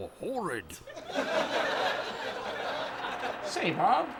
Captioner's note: laugh track